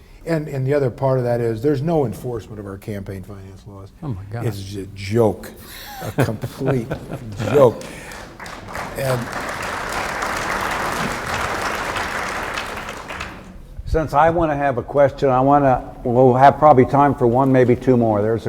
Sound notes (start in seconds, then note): 5.7 laughs; 8.1 audience applauding